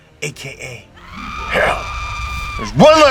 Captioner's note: woman screams; Satan laughs